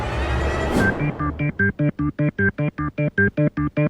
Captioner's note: alternating tones play rapidly